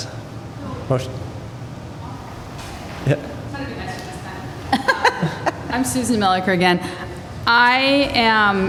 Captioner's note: laughter